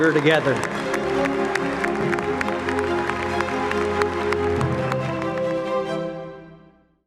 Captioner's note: acclamations et applaudissements bruyants